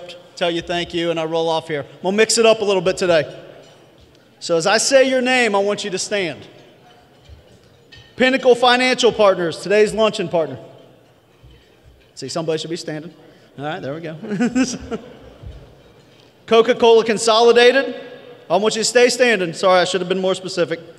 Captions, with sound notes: tell you thank you and I roll off here. We'll mix it up a little bit today. So as I say your name, I want you to stand. Pinnacle Financial Partners, today's luncheon partner. See somebody should be standing. All right, there we go. [LAUGH] Coca-Cola Consolidated, I want you to stay standing. Sorry, I should have been more specific.